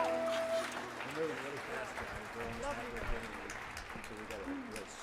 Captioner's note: audience applauds